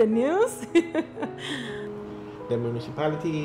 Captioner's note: laughter